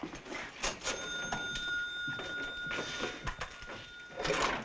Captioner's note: register dinging